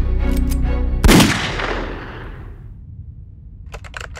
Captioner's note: gun fires; keys clicking